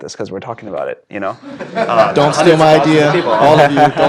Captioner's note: laugh